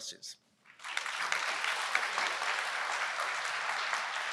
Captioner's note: applause